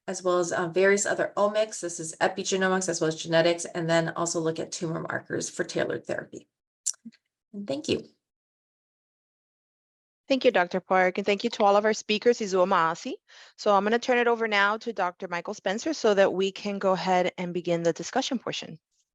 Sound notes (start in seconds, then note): 12.5 speaking in foreign language